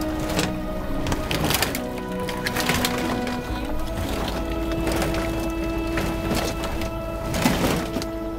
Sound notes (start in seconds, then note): 0.0 metal snapping